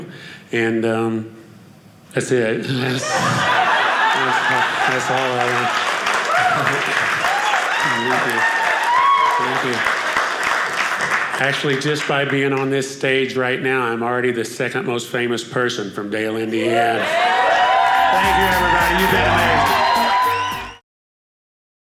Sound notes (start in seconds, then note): 5.4 audience applauding; 19.6 audience cheering